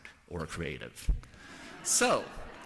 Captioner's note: laughter